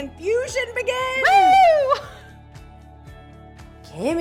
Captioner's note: wooing